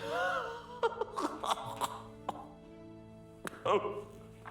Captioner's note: laughing